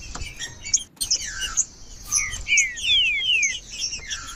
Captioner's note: trinca ferro cantando